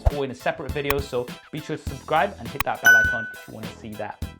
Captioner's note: bell dings